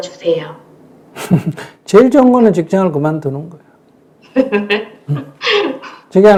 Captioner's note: 스님 웃음; 질문자 웃음